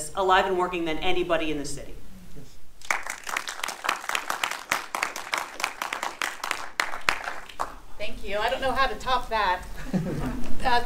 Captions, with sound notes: alive and working than anybody in the city. (audience applauding) - Thank you, I don't know how to top that. (man chuckles)